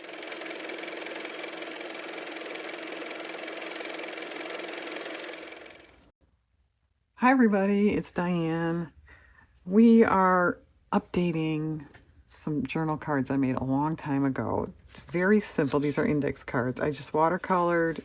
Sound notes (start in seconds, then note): 6.0 car motor